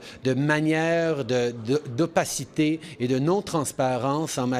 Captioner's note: speaking French